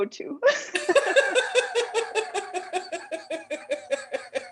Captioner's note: laughter